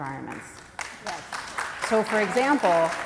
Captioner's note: applause